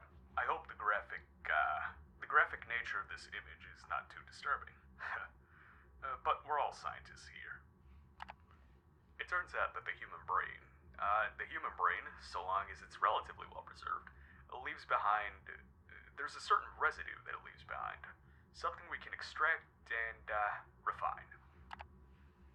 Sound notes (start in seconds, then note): 0.0 murmuring; 8.1 clicking; 21.6 clicking